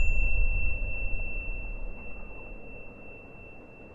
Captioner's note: wind blowing; bell chiming